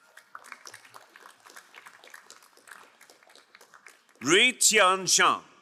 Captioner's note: crowd cheering and applauding